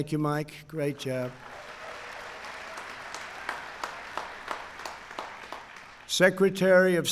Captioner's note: applause